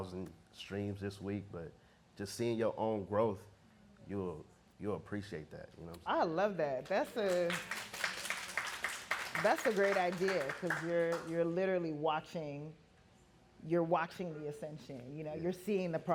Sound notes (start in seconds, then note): 7.0 audience clapping